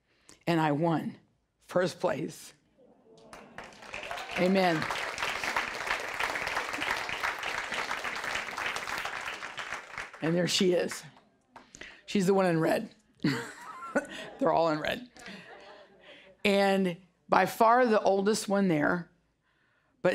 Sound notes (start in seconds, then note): 3.2 audience applause; 15.1 laughing